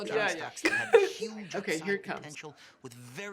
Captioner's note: laughing